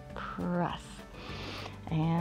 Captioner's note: inhales